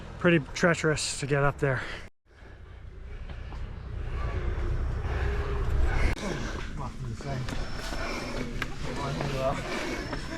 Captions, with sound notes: pretty treacherous to get up there. [panting] Fucking insane.